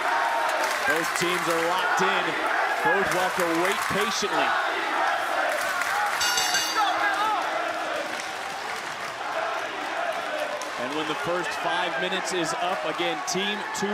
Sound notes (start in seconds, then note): 6.2 bell rings